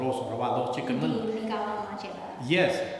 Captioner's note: speaking tibetan